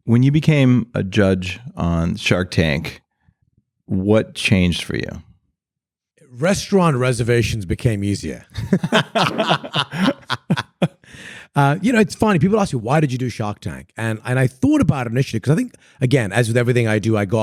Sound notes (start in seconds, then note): 8.5 laughing